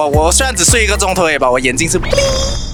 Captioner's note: bling